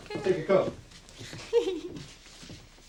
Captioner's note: giggles